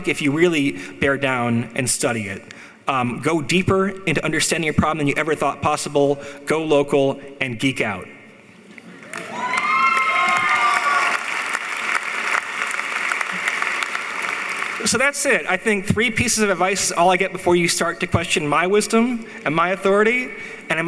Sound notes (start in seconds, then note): 9.0 cheering; 9.0 applauding